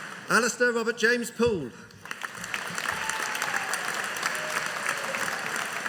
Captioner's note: audience applauding